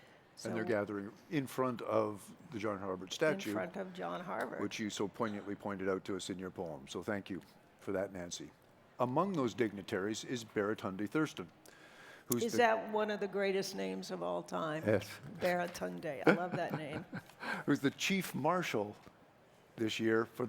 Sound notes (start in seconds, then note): 16.2 chuckles